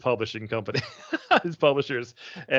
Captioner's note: laughing